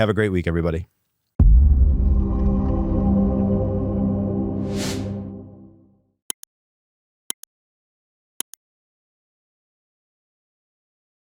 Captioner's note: whooshing